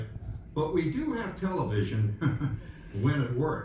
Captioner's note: Il glousse